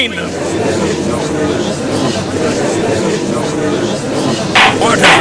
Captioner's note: gallery chattering